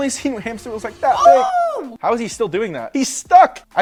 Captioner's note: screams